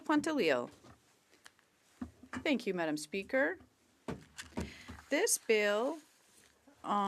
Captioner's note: speaking French